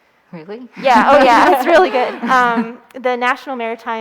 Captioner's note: laughing